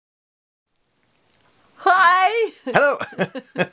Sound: laughter

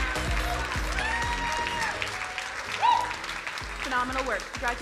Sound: crowd cheering and applauding

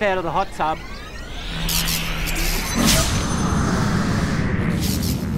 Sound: electronic whirring

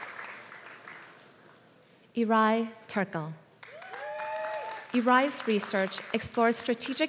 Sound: applause; applause

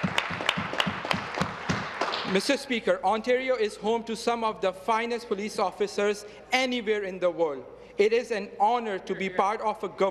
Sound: applause

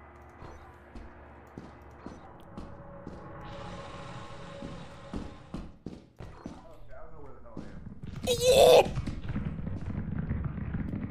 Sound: screams

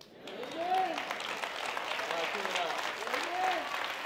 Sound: applause

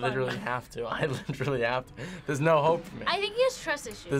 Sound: laughs

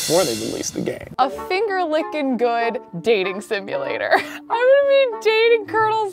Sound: chuckles

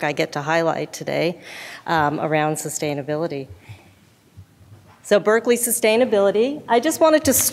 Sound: none

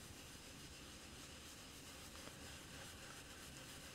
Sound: brush rubbing

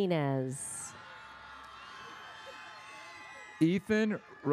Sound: audience cheers

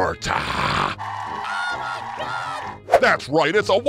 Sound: crowd goes wild

